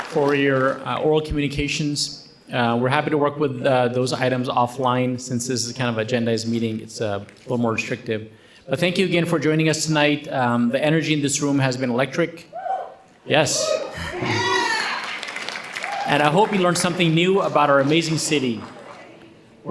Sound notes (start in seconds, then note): 13.6 audience cheering and applauding